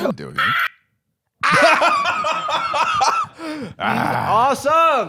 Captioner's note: laughing